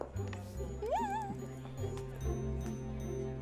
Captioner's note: squeals